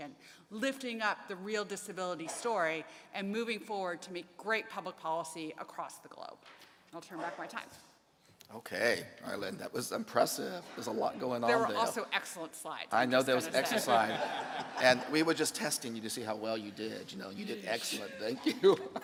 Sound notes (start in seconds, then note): 13.2 laughs; 17.2 laughs